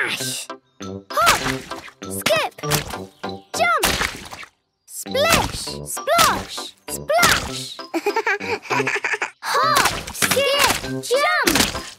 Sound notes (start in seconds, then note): 7.8 laugh